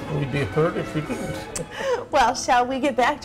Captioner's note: laughs